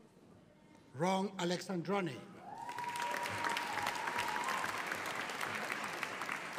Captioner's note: audience cheering